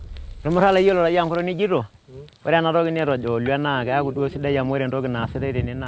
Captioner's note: man speaking in Massai